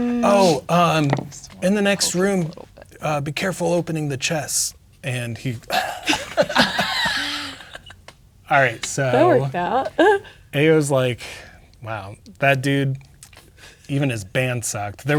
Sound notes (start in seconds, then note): 5.7 players laughing; 10.0 laughs